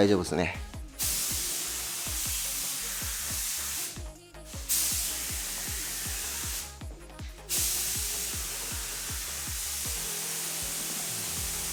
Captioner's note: paint sound